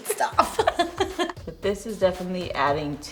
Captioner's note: laughter